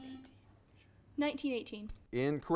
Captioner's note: buzzer buzzes